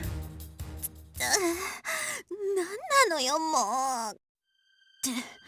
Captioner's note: pained wince